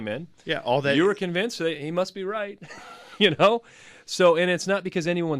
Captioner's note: laughs